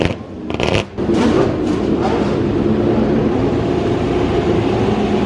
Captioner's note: car engines continue revving